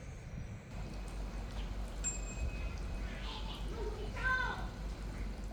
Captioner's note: neighborhood noises